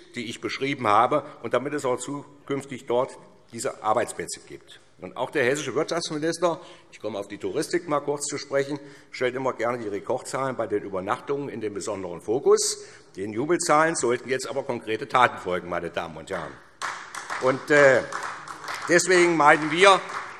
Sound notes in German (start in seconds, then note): 16.7 Beifall SPD